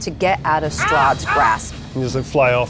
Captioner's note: imitates cawing